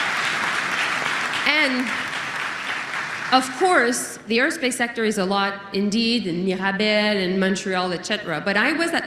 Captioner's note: applause